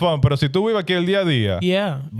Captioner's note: speaking In Foreign Language